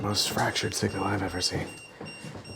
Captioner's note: EMF meter beeping